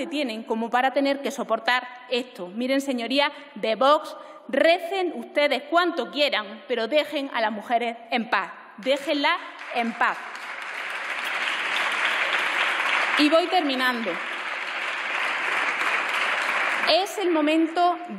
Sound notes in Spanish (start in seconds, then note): 12.0 Aplausos